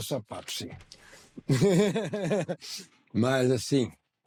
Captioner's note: laughter